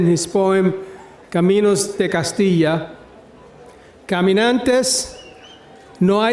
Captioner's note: speaking in foreign language